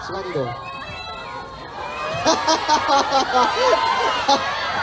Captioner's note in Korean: 웃음